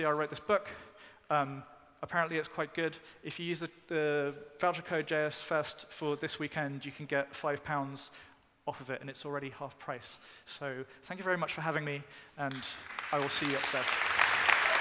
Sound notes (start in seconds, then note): 12.5 applause